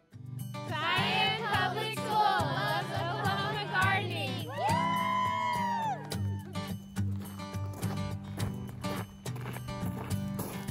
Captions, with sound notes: - Cheyenne Public School loves Oklahoma Gardening. (cheers and whoops) (steady guitar music)